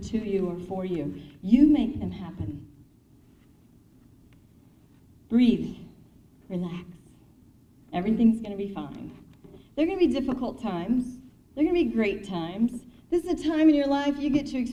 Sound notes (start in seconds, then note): none